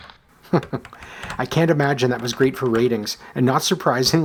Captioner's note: chuckles